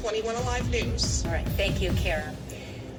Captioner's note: on TV